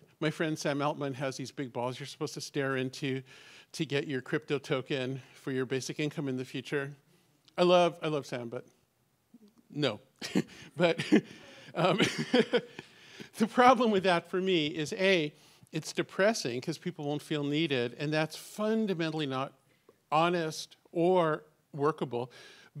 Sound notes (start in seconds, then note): 10.2 chuckles